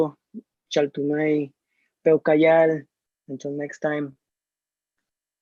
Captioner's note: non-english speech